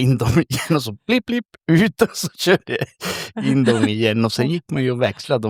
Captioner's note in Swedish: skratt